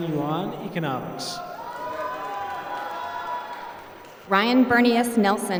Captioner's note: applause